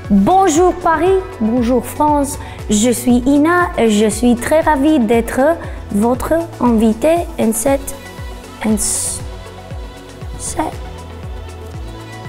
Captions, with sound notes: Hello, Paris, hello, France! I am INNA. [Speaking French]